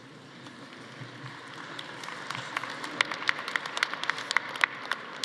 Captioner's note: audience applauding